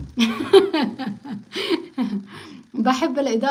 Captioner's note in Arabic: ضحك